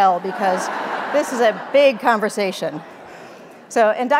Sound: audience laughing

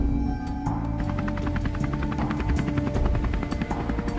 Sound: rotor Sounds

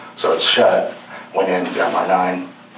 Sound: none

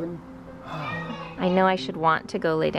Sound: sighs

